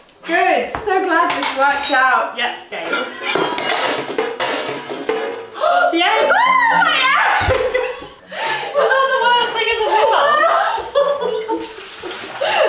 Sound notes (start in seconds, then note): 5.7 shouts; 8.2 gasps